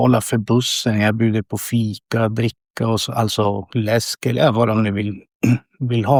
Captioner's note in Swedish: harklar sig